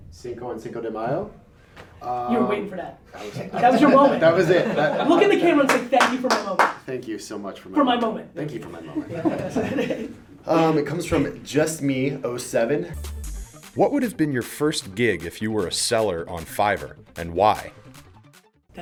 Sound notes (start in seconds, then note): 3.2 laughter; 8.8 laughter; 13.2 voiceover